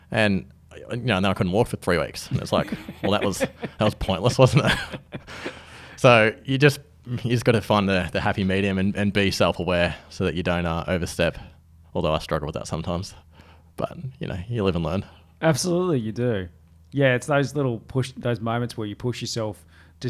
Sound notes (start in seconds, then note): 4.7 laughs